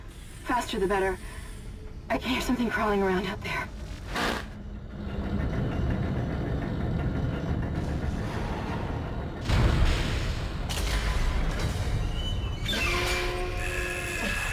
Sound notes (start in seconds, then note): 5.5 dramatic music; 9.3 gunshots; 12.3 dramatic music